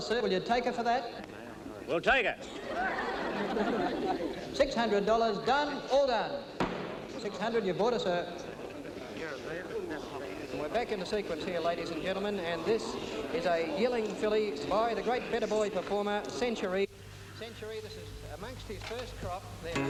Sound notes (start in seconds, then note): 2.4 audience laughing; 6.6 gavel bangs